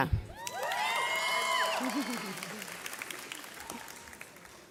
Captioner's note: audience cheers